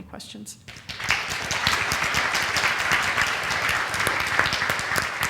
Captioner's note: applause